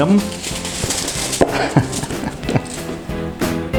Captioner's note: laughs